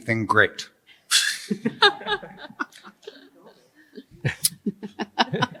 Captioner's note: laughter